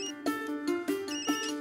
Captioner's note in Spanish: Suena celular